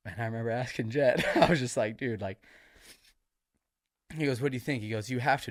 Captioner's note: sniffles